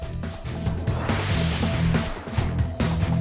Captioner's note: upbeat music; graphic whooshing; upbeat music